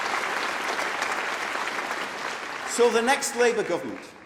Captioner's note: applause